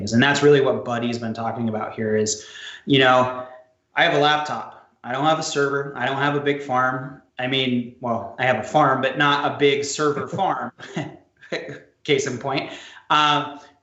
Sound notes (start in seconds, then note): 10.0 chuckles; 11.5 laughs